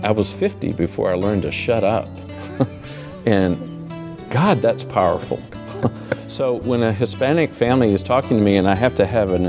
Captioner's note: laughs